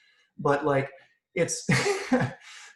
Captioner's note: laughs